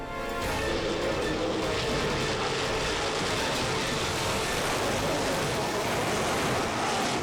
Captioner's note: dramatic music; engines revving